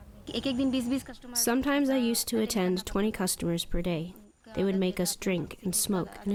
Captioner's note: through translator